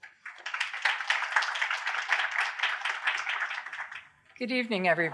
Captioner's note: applause